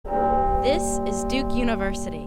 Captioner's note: bell tolls